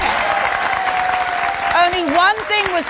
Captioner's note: audience cheering